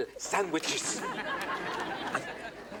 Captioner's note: audience laughing